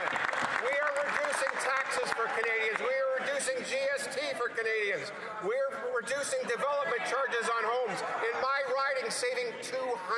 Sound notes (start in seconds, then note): 4.1 some Applause